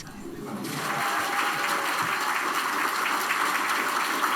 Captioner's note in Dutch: publiek applaudisseert